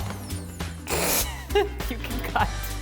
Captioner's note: laughing